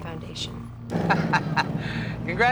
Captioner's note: laughs